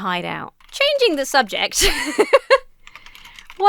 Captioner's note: laughs